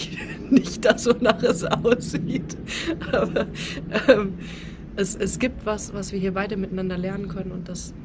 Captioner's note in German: gelächter